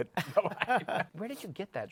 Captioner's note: laughter